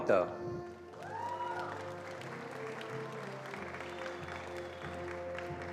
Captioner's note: attendees applauding